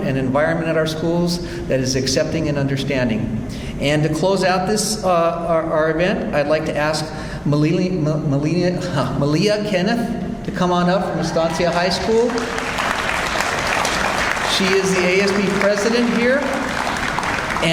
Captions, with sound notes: and environment at our schools that is accepting and understanding. And to close out our event, I'd like to ask Maleah Kenneth to come on up, from Estancia High School. (audience applauds) She is the ASB president here